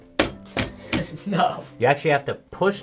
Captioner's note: chuckles